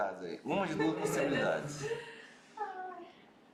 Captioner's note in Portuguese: risos